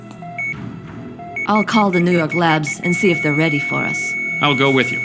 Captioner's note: ecg flatlines